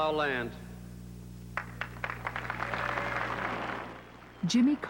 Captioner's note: applause